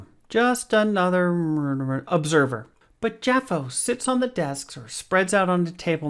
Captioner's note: mutters